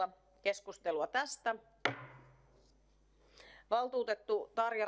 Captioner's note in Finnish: Nuijan kopautus